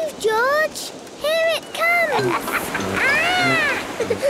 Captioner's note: laughs